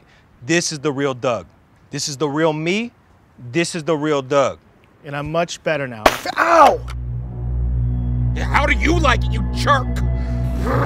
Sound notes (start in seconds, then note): 6.4 cracking; 10.6 ominous music